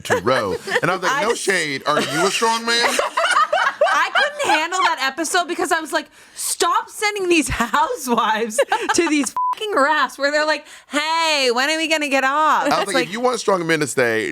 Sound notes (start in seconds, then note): 2.7 everyone laughs; 9.1 beep